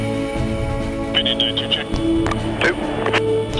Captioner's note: radio tower chatter